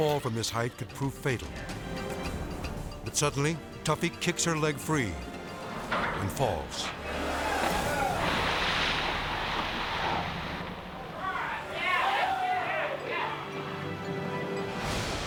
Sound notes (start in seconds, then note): 7.3 water splashes; 10.9 rescuers cheering